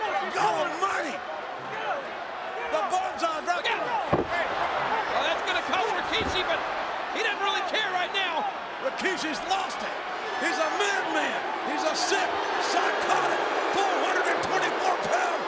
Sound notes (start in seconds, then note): 5.3 body thuds